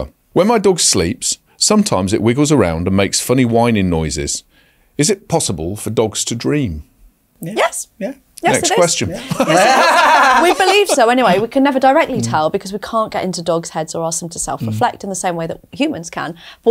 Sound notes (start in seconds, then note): 8.5 hosts laugh